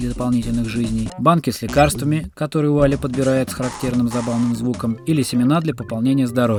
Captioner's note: Wally picks them up with a characteristic funny sound